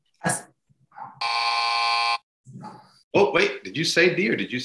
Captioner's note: buzz